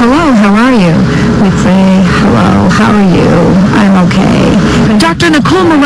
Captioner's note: affecting vocal fry